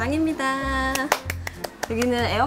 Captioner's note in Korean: 짝 짝 짝 짝